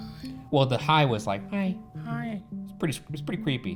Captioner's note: whispers